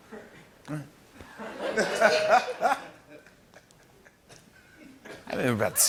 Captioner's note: laughter